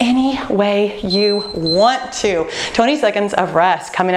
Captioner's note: timer beeping